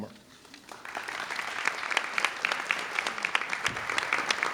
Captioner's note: audience clapping